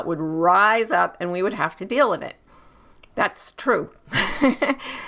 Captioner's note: laughs